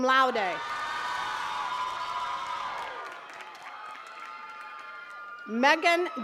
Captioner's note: attendees cheering and clapping